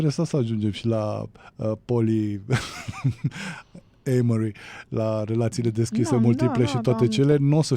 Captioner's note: laughter